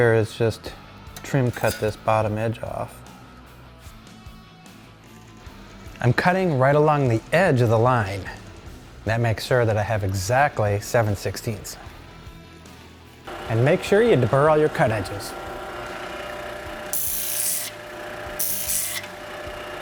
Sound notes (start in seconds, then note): 15.9 machine whirring; 17.2 aluminum buzzing